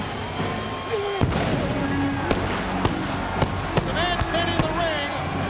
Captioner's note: fireworks popping; Goldberg grunts